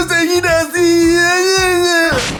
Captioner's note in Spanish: Lloriqueos